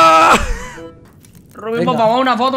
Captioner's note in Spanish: risa